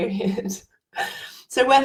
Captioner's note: laughs